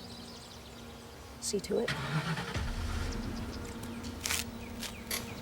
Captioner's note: engine starting; tense music